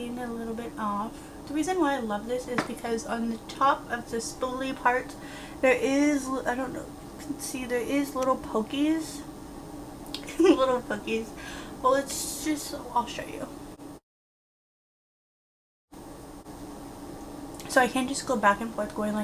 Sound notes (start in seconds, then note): 10.2 giggles